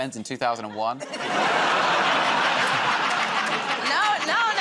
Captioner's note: laughter